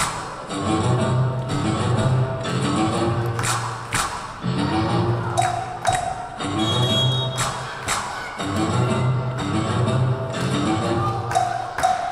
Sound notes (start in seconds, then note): 6.5 whistle blowing